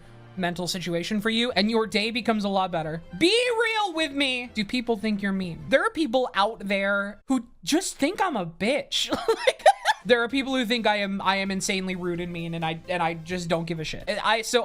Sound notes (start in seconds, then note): 9.2 laughs